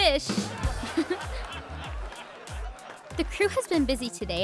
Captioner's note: audience laughing